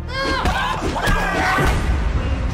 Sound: fighters grunting and yelling; dramatic music continues

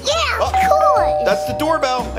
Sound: door bell

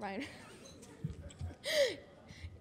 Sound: laughs

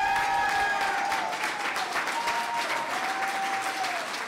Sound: clapping

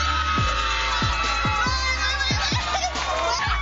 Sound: crowd cheering

